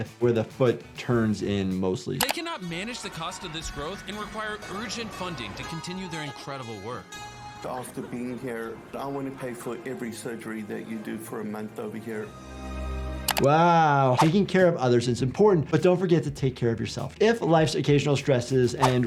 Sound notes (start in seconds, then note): 12.5 inspiring music; 13.2 mouse clicking